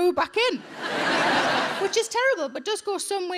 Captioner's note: audience laughing